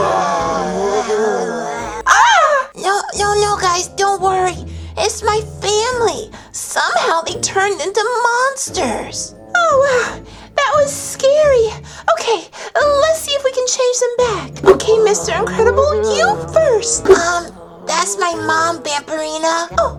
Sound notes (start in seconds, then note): 0.0 monsters groaning; 2.0 girls scream